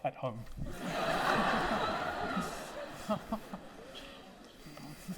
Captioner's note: audience laughing